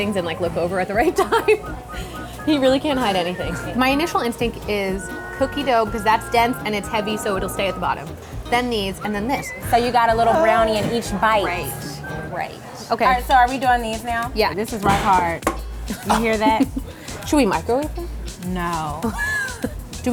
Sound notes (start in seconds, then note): 15.6 plop; 19.0 laughter